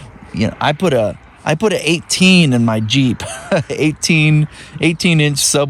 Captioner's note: laugh